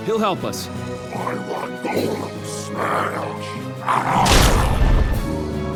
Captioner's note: yells